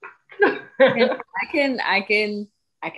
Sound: giggles

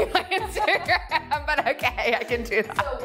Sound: girls bust out in laughter

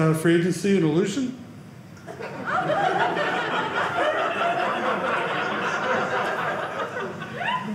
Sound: audience laughing

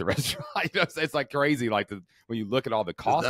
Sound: chuckling

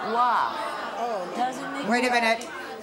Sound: audience groaning

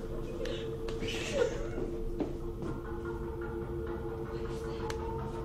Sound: footsteps

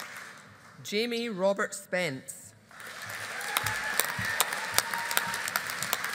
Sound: audience applauding

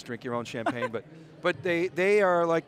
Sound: laughter

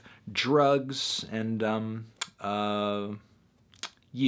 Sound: smacks lips

